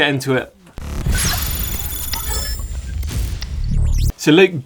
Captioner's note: clinking sound